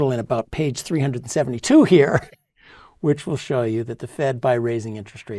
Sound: laugh

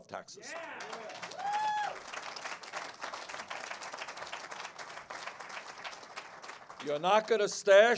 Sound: cheers and applause

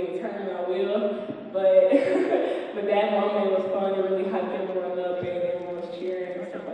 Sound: chuckles

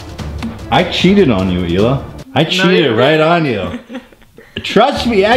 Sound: chuckles

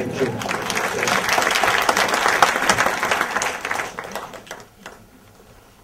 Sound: audience applause

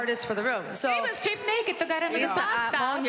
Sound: speaking Spanish

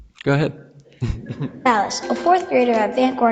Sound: laughs

